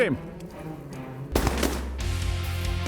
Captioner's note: gun shots